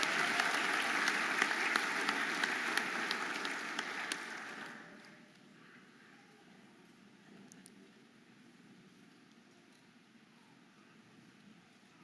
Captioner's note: audience applauding and cheering